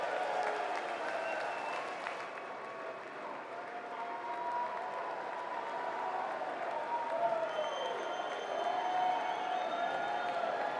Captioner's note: applause